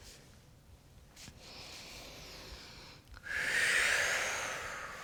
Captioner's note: deep breathing